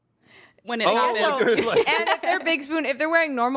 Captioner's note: laughs